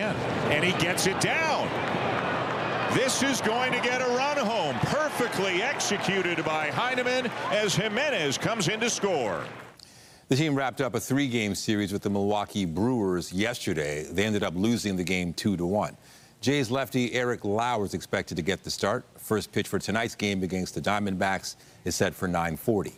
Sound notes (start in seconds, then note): 6.1 applause